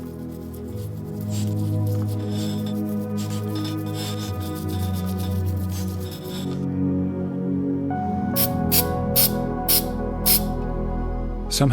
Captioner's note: scissors snipping